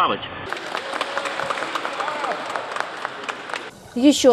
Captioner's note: journalists' applause in the background